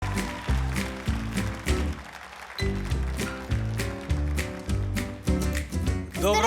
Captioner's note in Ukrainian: оплески